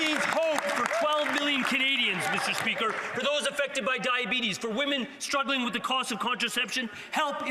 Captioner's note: some Applause